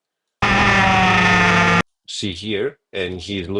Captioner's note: tires screeching